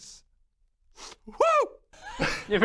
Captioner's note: sniff